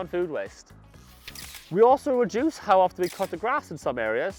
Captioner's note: camera shutter snaps